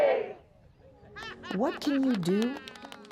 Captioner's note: group applauding and laughing